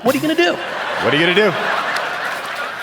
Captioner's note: audience laughing